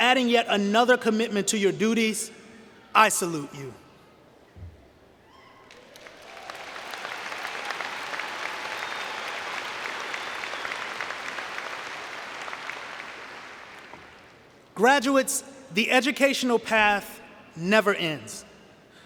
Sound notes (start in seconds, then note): 5.3 cheering and Applause